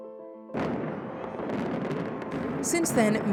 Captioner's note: explosions